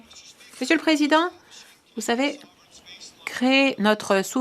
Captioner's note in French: voix de l'interprète